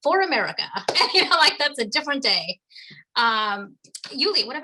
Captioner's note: laughs